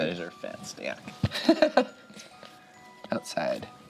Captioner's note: laughs